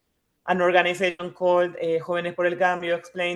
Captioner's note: speaking in foreign language